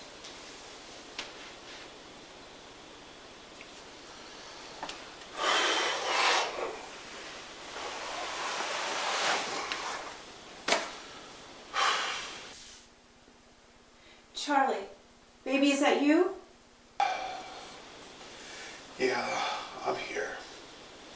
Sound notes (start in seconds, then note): 4.9 heavy sigh, slide down door; 8.9 huff; 17.0 sigh